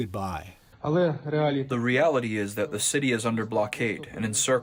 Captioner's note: through translator